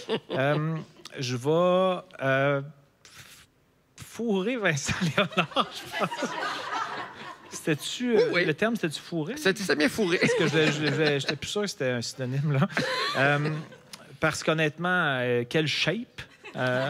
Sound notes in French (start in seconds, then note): 0.0 rires; 4.9 rires; 9.8 rires